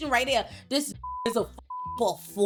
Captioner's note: beep